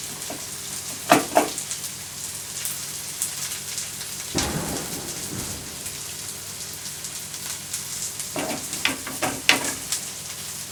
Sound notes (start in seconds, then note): 4.3 thunder sounds